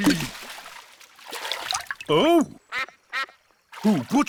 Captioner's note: quacks